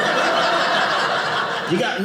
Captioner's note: audience laughing